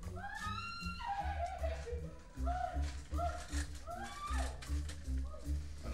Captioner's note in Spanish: UNA MUJER GRlTA